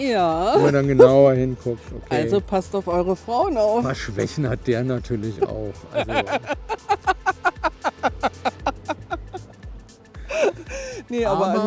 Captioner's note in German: gelächter